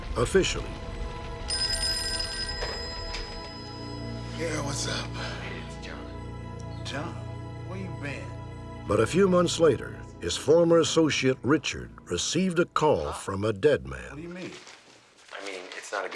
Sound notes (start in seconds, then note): 1.4 phone ringing